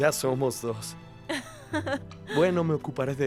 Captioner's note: Esperanza ríe